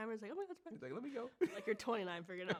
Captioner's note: laughs